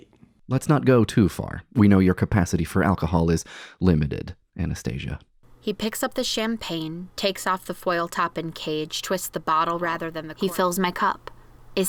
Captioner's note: reading aloud from the novel